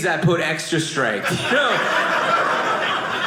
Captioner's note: audience laughing